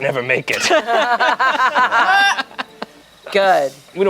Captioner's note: everyone laughs